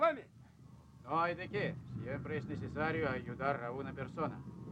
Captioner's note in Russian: говорит по-испански